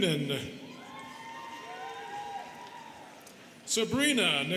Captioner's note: students cheering